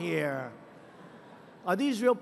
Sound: laughter

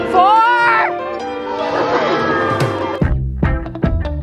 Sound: screams; upbeat music

